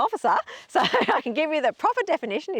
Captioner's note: laughs